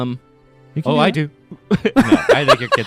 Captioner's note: laughing